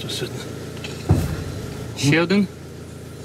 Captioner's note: explosion sound